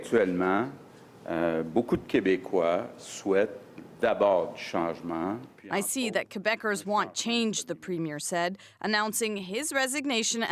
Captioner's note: speaking French